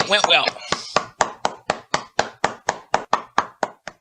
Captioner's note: hands clapping